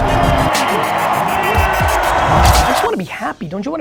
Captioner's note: audience cheers